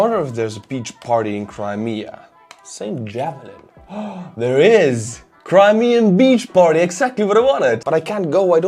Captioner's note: gasp